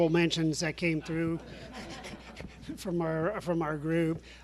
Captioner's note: audience laughs